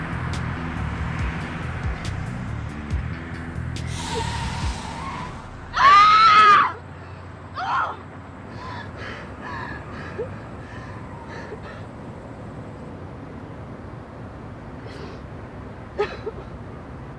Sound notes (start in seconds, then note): 5.7 screams; 14.8 cries